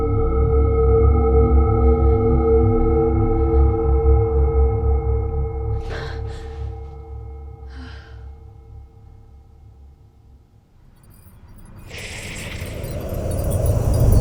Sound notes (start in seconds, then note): 5.7 Shelby gasps; 7.6 Shelby sighs; 11.5 eerie music